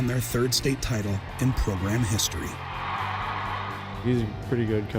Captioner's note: spectators cheering